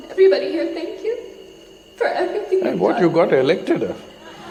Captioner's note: laughter